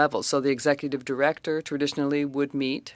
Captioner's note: speaking French